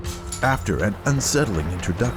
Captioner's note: glass clatters